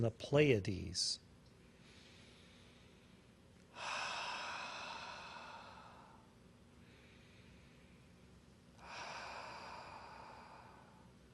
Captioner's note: inhales and exhales three times